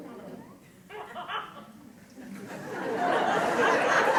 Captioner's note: laughter